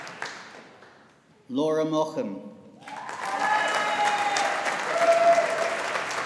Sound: audience applauding

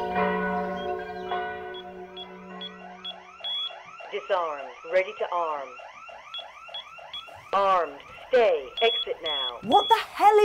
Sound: alarm

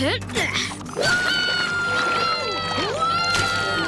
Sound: cheering

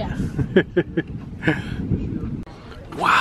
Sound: laughing

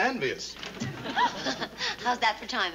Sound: gasps

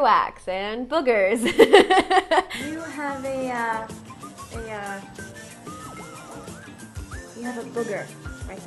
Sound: laughter

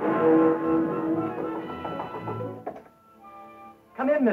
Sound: knocking

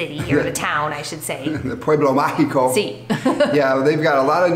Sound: chuckles

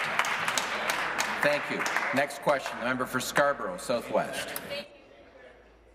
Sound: applause

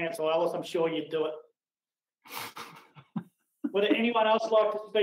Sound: laughs

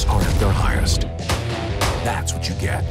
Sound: gun shots

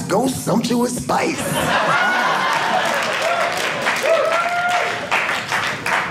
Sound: audience cheering

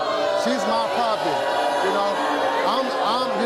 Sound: audience boos

